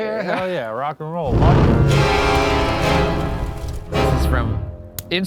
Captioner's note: smoke whooshing; intense eerie music